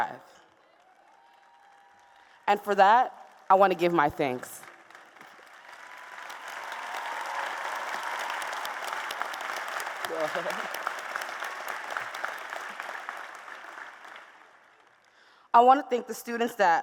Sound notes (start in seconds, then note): 3.8 applause